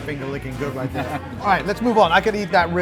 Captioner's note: laughs